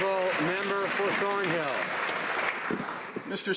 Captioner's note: some Applause